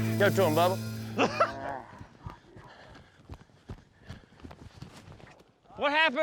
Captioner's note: mooing